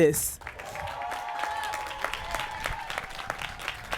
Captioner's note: applause